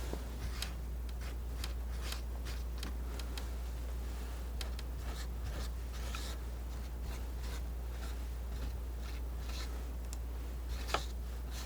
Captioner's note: scratching